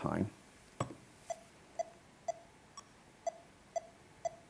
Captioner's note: beeping